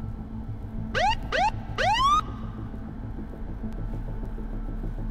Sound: police siren wailing

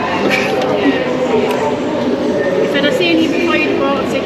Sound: laughter

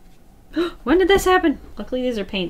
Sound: gasps

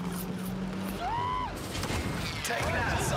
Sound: shrieks

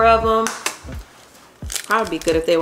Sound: egg tapping

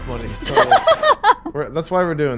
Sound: laughing

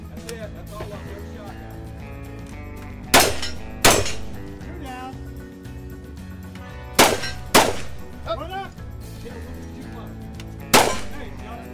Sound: gunshots/plinking sounds

